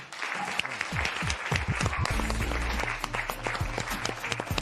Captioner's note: applause